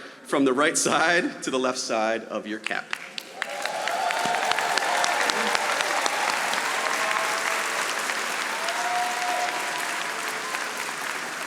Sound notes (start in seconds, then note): 2.9 audience applauding